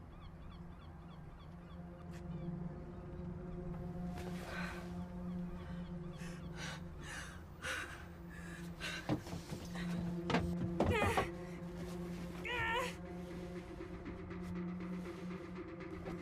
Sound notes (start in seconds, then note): 0.0 tense music; 6.1 Tara breathing heavily; 12.4 Tara groaning; 13.6 tense music